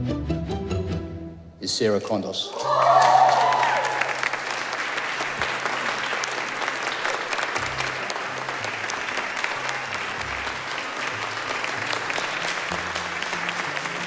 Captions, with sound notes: Is Sarah Contos. (Audience clapping)